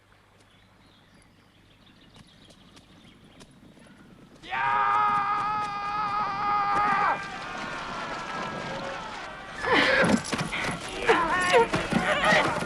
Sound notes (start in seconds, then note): 4.7 raider shouting; 7.4 raiders shouting; 9.7 Hundra gasps